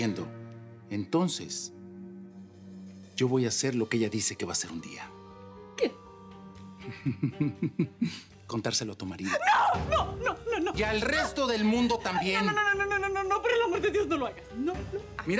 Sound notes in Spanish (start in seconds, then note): 6.8 Risas